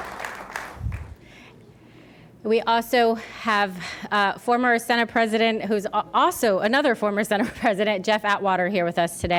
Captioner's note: applause